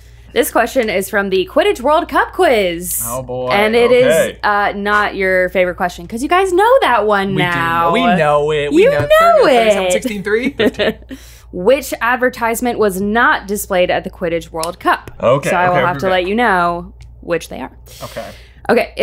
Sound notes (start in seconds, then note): 8.7 laughs